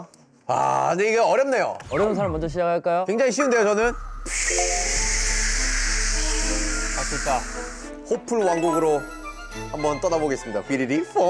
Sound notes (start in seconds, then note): 8.3 poof!; 10.3 poof!